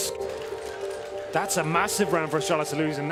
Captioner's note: applause